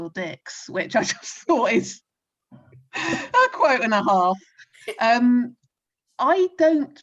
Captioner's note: laughs